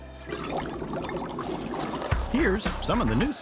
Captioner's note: bubbles